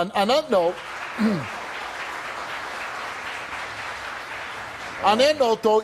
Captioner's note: audience applauds